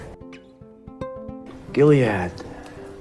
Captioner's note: voiceover